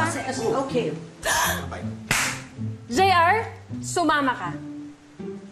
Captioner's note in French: gasps